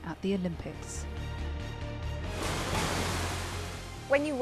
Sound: water splashing

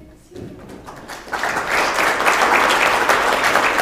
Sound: applause

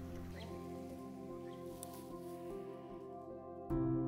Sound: birds tweeting; gentle music

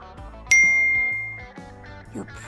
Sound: chimes

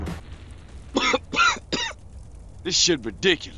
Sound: coughing

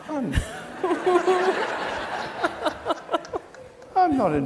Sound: audience laughs

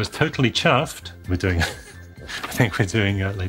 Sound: laughs

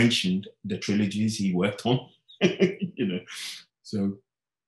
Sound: laughing

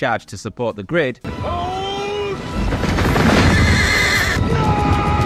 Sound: horses whinnying

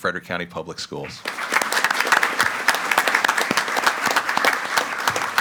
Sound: group applauding

